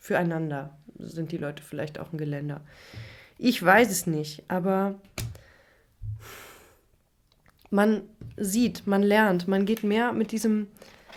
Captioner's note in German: seufzt